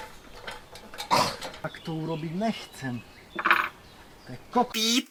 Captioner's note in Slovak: smrkanie